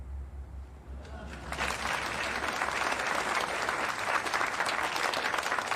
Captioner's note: audience applauding